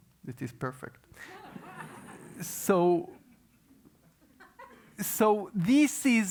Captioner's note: laugh